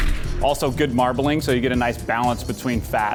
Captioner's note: none